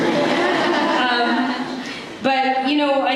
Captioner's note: laughter